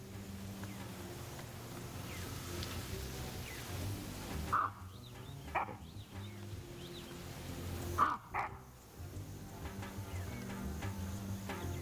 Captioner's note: baboon barking